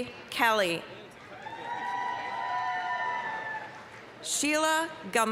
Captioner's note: applause, cheering